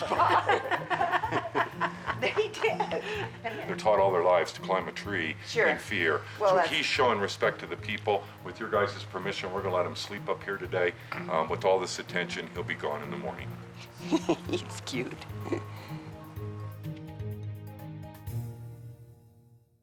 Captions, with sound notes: (group laughing) They did. - They're taught all their lives to climb a tree in fear. So he's showing respect to the people. With your guys' permission, we're gonna let him sleep up here today. With all this attention, he'll be gone in the morning. - (chuckles) He's cute.